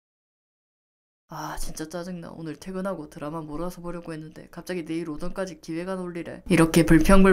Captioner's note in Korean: 귓속말